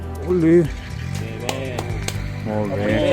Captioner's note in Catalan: aplaudiments